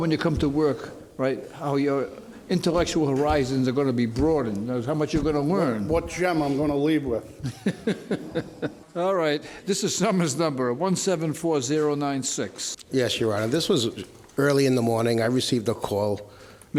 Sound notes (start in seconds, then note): 7.4 laughter